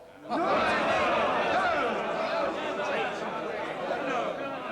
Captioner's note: rowdy outcry